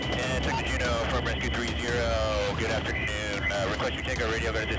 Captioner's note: radio Voice